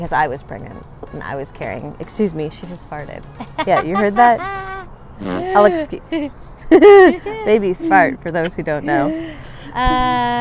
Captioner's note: fart